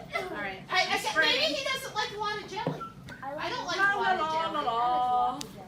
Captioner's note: whistling, la la la